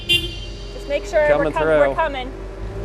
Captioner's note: honking sound